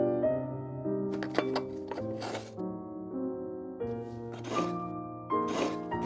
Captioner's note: grater rattling; coconut scraping